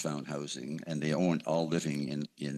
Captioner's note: speaking French